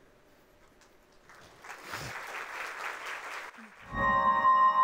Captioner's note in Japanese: 拍手の音; 神秘的な音楽